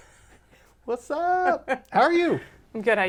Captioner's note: laughs